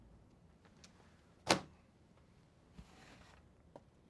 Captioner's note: book thunks on desk